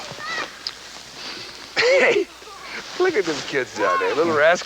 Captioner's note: chuckles